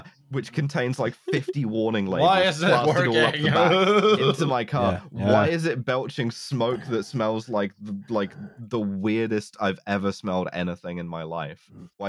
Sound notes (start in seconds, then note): 2.1 laughs